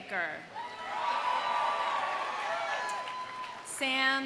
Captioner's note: audience cheering; audience applauding